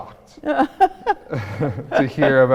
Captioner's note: laughing